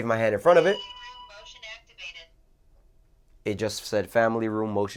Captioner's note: motion speaking